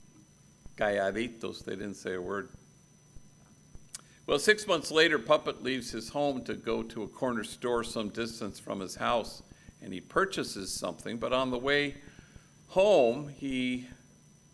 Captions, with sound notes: (speaking in Spanish) they didn't say a word. Well, six months later, Puppet leaves his home to go to a corner store some distance from his house, and he purchases something, but on the way home, he...